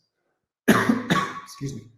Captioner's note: coughs